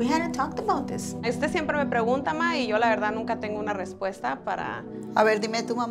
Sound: speaks in foreign language; Eileen's grandma speaks in foreign language

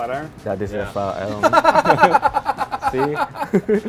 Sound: laughing

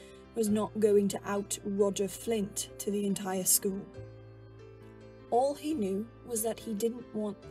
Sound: none

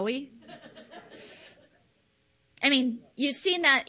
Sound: audience laughs

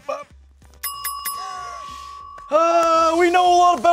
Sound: bell dings

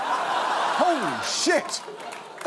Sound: audience cackling

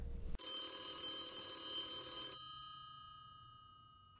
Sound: ringing

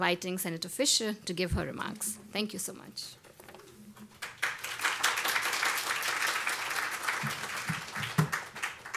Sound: applause

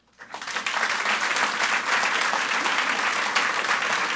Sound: audience applauds

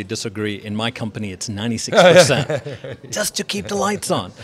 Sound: laughs

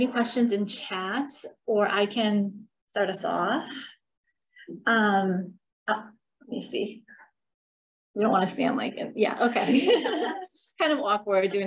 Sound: laughter

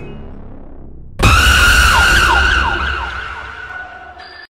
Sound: scream

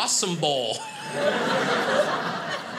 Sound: audience laughing

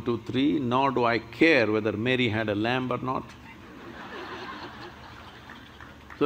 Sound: laughter

